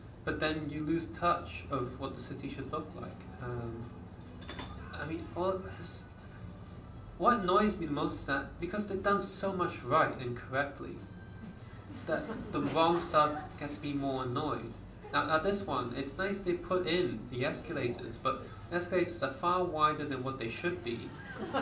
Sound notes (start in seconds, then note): 11.7 audience laughs